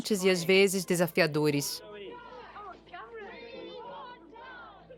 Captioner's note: crowd chatter